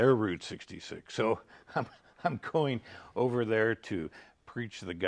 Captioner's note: laughing